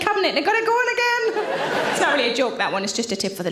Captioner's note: audience laughs